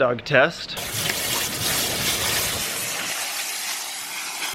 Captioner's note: splashing